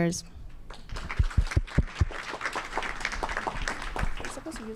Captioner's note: audience clapping